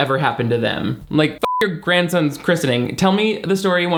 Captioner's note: beep